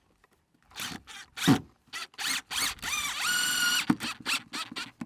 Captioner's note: drill whirring